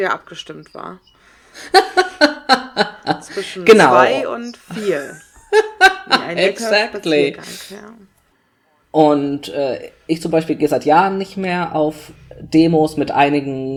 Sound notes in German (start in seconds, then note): 0.0 ironie; 4.8 übertönt mit lautem gelächter